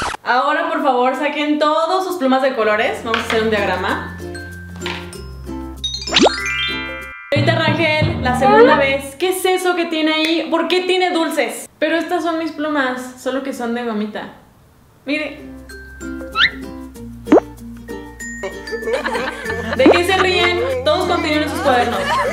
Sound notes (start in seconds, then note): 18.4 laughter